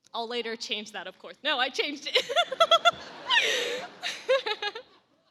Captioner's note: audience laughs